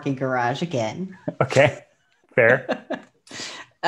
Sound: laughs

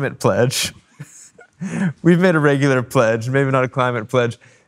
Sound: chuckles

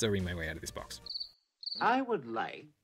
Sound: cricket chirp

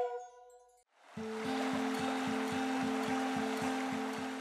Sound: soothing flute music; water rushing

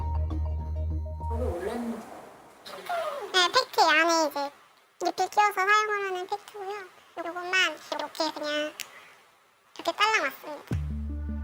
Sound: voiceover

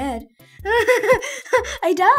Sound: giggling

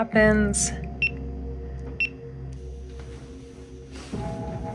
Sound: camera beeping

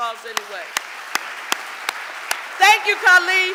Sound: audience applauding

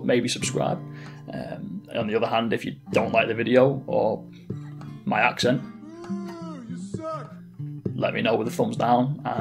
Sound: boo you suck

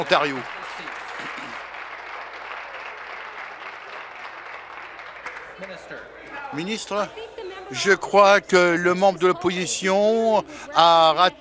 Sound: applause

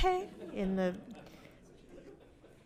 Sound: audience laughs

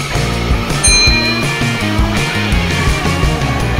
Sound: ding

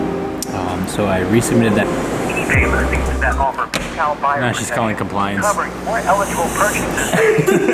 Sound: pre-recorded message plays

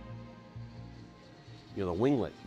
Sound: aircraft flying

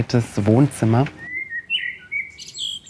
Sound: birds chirping

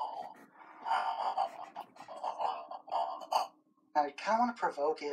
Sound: the entity laughs

